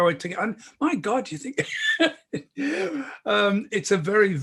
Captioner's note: laughing